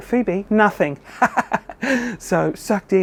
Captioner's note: laughing